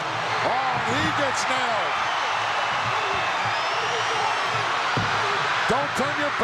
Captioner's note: audience cheering